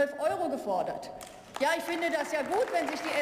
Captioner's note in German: Beifall